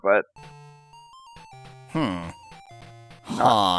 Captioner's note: awkward silence